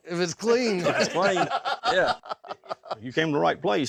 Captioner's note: everyone laughs